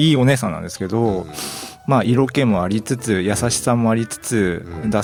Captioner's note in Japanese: 鼻息